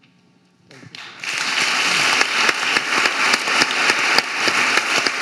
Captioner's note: audience applauding